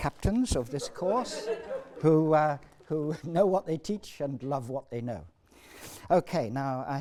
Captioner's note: laughs